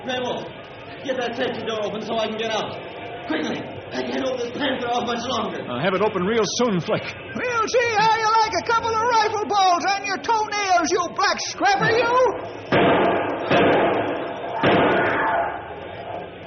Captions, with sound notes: Then we'll get that tent door open so I can get out quickly. And get all this panther off much longer. I'll have it open real soon, Flick. Well, gee, I like a couple of rifle balls and your toenails, you black scrapper you. (gunshots)